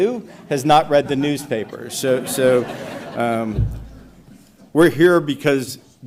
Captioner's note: audience laughs